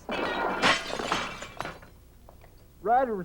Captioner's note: glass breaking